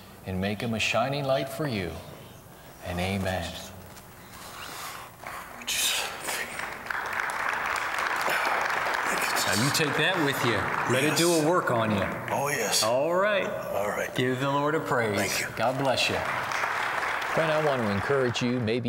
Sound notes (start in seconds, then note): 6.0 applause; 6.0 whispering; 8.7 whispering; 15.2 applause